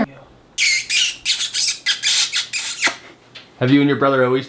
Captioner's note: lips smooching